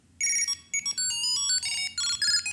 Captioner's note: phone ringing